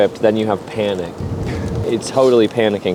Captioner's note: laughs